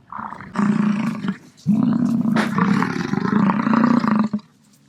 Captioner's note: buffalo grunting